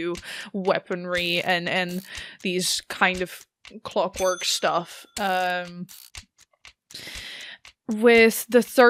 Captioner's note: ticking, dings, and whirs continue